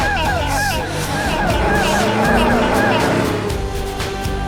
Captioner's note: further gay screeching